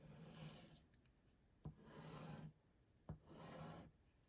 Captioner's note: pen writing